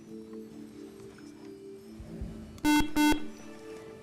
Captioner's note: buzzer